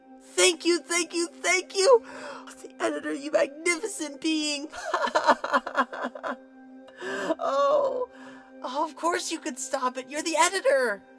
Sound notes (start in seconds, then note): 4.7 pinkie laughs joyously